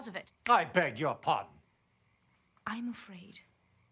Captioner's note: none